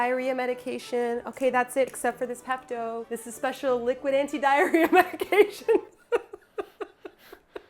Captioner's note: laughing